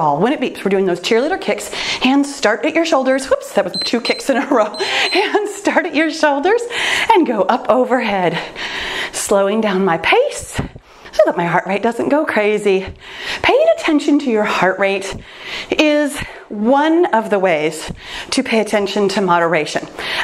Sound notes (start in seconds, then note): 3.7 timer beeps